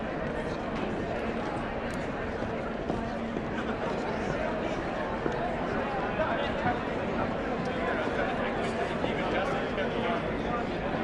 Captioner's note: indistinct chatter